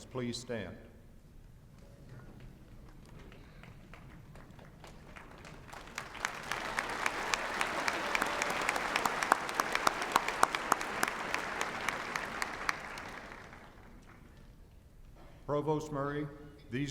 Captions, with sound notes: please stand. [APPLAUSE]